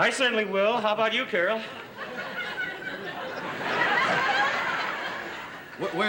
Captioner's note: laughter